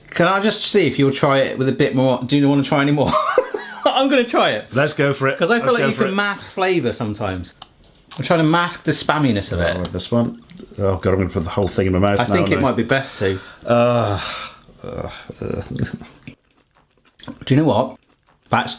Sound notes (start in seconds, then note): 3.1 laughing; 10.4 mustard spurting